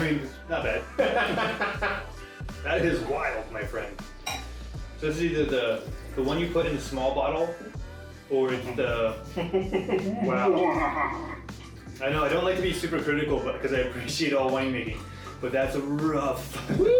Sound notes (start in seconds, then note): 0.7 laughing; 8.5 laughing; 11.2 spit splashing